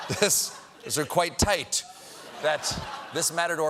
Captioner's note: laughter